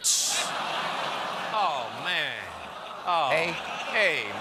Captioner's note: audience reacts